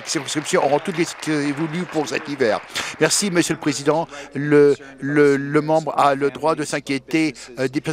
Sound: applause

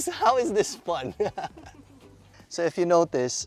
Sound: laughs

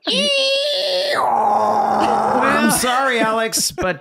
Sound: screeching

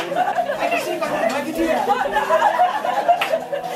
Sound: laughing

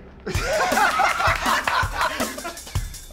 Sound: laughter

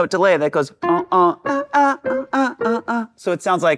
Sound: humming

